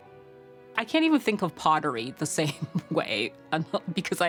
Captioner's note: chuckles